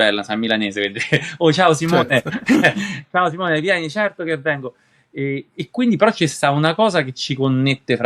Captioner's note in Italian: risate